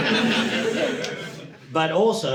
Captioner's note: audience laughing